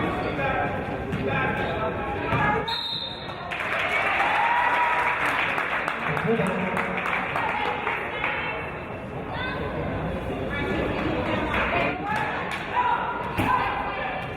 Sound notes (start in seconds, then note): 2.6 referee's whistle; 3.3 applause